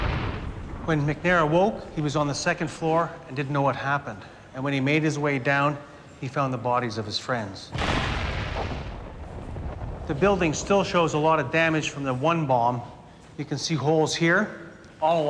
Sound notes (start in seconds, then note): 7.7 bomb explodes